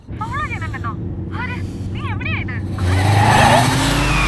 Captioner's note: in panic